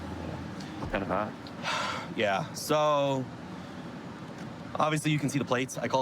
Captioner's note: sighs